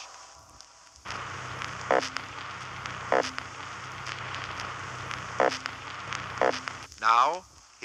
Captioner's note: Spot Fish sounds